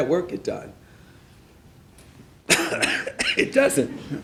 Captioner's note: laughing